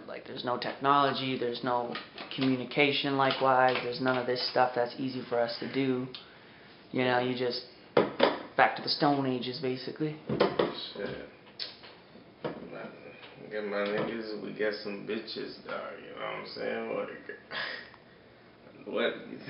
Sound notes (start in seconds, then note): 8.0 smacks table; 10.7 smacks table again